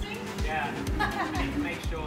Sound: woman laughing

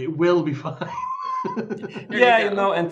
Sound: laughs

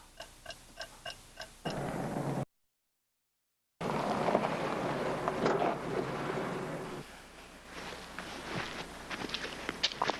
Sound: clock ticking

